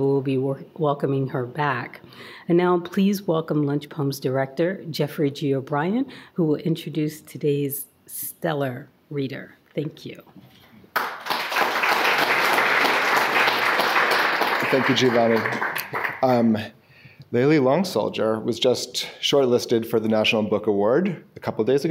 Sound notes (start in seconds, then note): 10.9 audience applauding